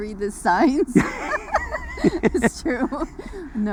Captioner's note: laughs